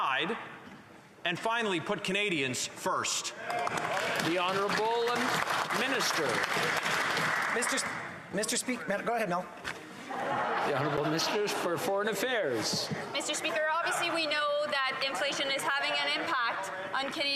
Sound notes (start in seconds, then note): 8.3 some Applause